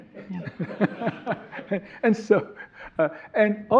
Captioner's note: all laughing